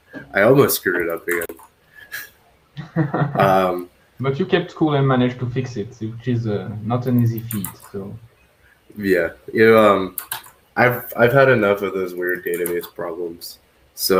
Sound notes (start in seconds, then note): 2.8 laughs